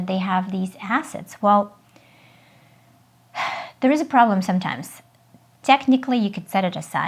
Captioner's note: sighs